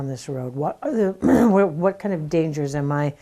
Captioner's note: clears throat